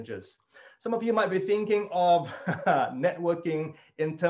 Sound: chuckles

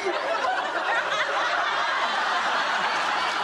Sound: laughs

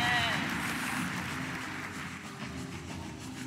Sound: applause

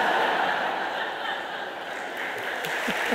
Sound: audience laughing

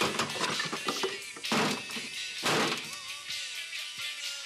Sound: thumping and clattering; music continues faintly

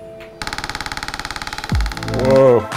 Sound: machine clicking

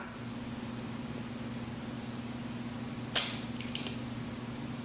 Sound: cracks egg

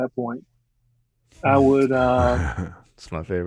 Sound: chuckling

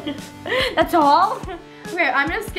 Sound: laughing

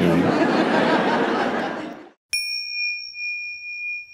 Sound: audience laughing

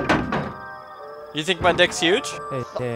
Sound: none

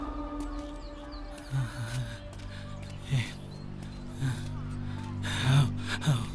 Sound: sighs

